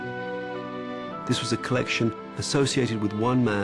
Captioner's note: voiceover